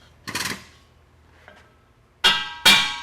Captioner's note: banging